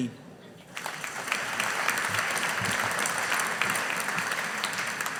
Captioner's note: audience applauding